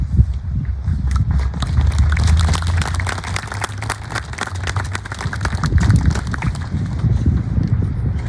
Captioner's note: applause